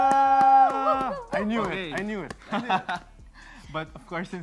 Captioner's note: chuckles